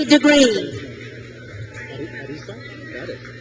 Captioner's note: crowd cheers